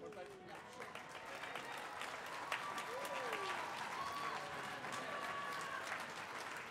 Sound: audience applauding; audience cheering

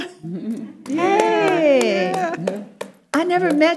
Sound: people responding and clapping

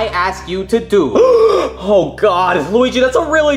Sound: gasps

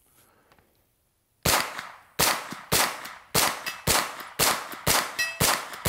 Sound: gun firing repeatedly

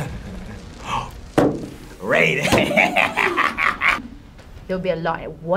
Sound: laughs; gasps; laughs

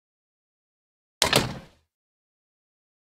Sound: sound of door

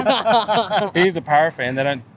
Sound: laughing

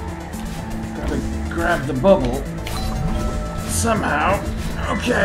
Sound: doorbell

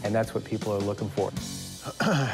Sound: clears throat

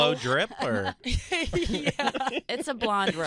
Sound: laughing

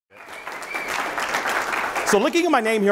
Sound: audience clapping

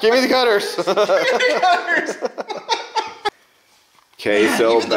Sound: laughs

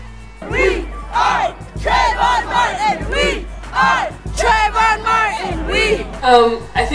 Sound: chanting

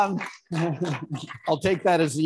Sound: audience applauding

